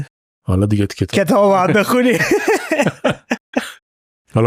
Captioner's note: laughs